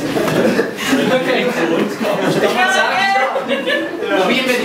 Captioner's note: laughing